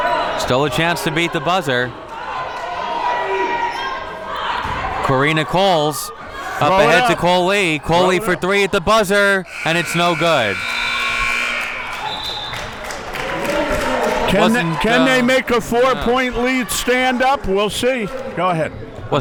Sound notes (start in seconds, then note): 9.4 whistle blows; 9.4 buzzer blares; 10.0 audience applauding